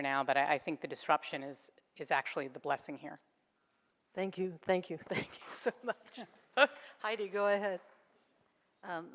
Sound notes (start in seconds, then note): 6.7 laughs